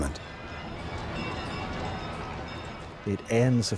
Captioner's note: crowd chattering